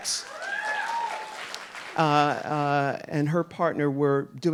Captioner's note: audience applauding